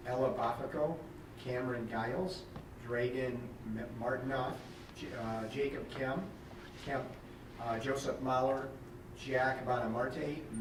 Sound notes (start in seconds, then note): none